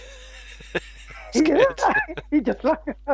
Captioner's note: both laughing